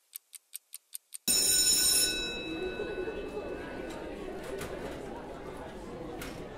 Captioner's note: bell rings, children chatter